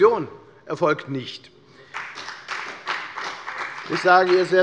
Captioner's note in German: Beifall bei der FDP